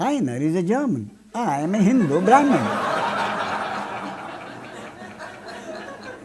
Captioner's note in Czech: smích